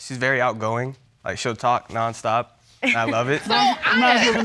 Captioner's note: chuckles